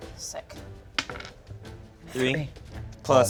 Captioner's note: dice rolling